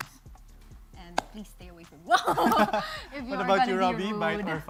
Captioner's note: chuckles